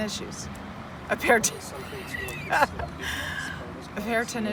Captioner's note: laughs; passerby chatting